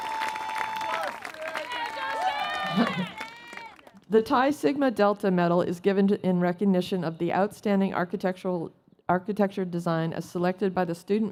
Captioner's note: cheers and Applause